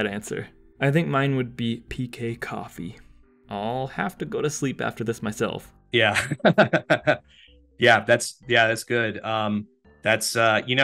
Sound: laughs

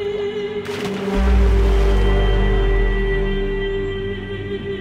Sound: water splashing; dramatic vocalization music

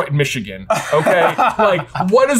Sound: laughs

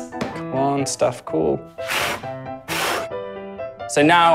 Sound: blows

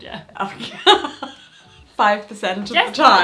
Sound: laughs

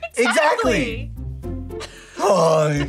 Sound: laughs

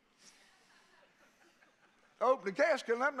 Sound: congregation laughing

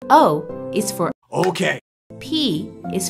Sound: claps

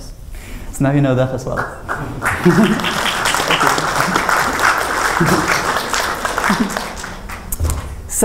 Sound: applause

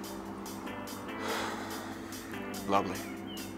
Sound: inhales

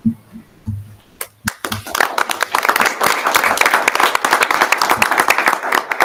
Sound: audience applauding

